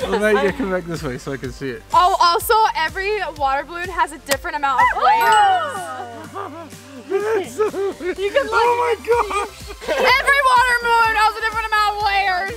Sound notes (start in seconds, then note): 5.2 ding